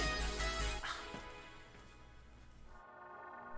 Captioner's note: sighs